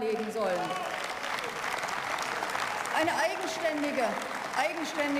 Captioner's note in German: Beifall